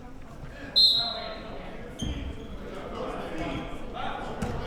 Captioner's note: whistle blows